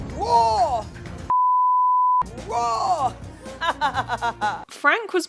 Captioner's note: beep; laughs